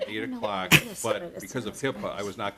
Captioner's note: laughter